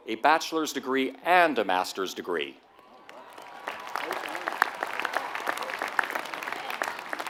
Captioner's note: applause